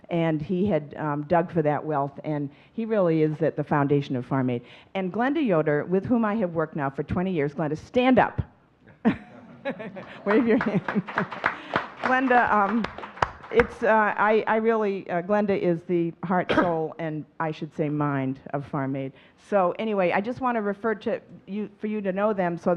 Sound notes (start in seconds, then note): 9.0 chuckling; 11.6 audience clapping